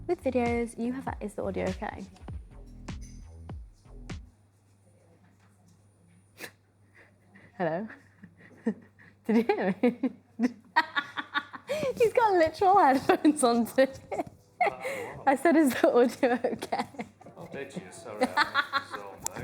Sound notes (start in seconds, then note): 4.2 background music stops; 10.4 laughs